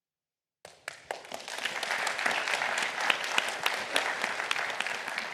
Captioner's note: applause